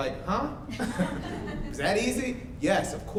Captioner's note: everyone laughs